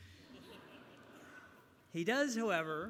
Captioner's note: laughter